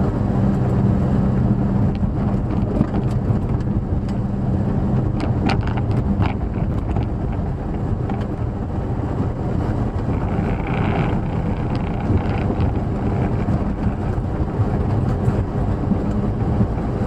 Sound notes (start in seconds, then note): 5.2 engine noise, interior rattles